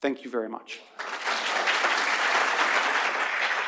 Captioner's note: applause